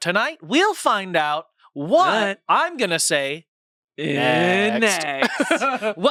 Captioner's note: laughs